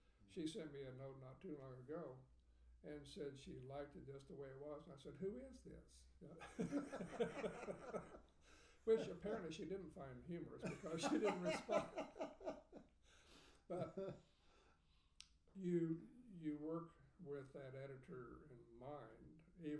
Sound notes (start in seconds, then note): 6.4 laughing; 12.3 laughing